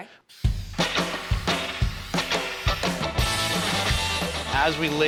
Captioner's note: spraying